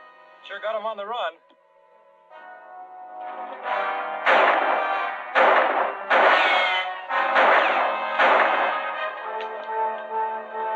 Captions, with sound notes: We sure got 'em on the run. [gunshots] [gun clicks]